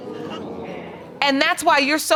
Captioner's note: audience gasps